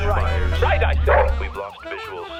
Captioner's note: dog barks